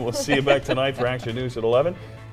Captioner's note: laughter